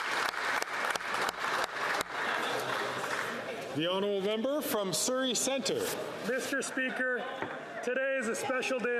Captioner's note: some Applause